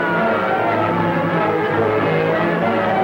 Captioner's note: bike engines roaring